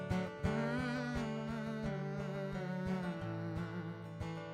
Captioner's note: hums with guitar